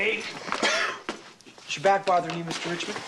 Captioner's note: coughing